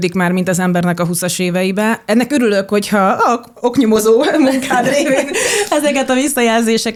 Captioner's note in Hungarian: nevetés